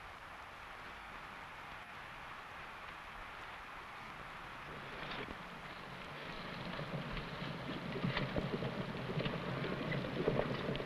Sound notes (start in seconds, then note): 6.8 horse hooves pattering